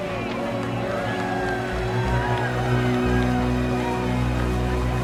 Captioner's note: crowd cheering